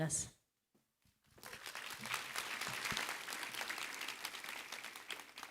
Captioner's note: applause